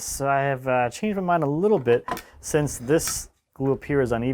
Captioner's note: none